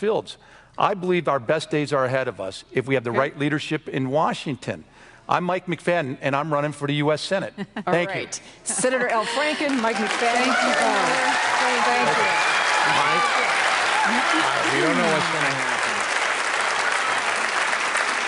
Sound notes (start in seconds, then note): 7.6 laughs